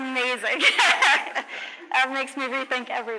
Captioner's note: laughs